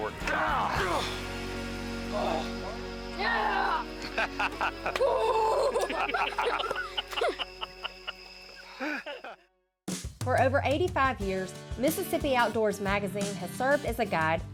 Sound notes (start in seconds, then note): 0.6 grunting; 2.2 grunting; 3.3 laughing; 5.1 grunting; 6.0 all laughing